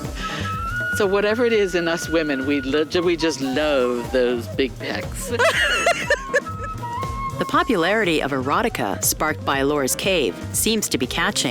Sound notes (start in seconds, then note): 0.0 laughs; 5.7 laughs